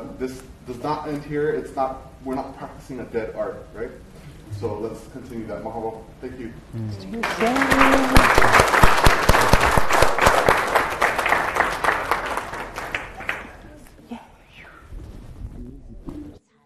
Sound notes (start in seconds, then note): 7.2 applause